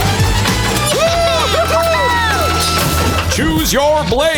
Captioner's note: cheering